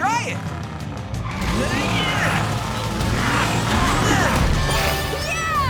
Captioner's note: grunting